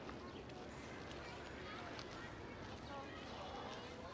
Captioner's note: birds chirping